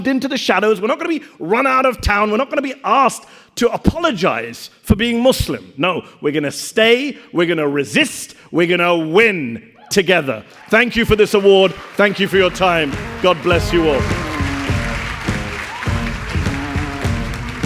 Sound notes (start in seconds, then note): 10.8 audience applauding; 14.4 mellow rock music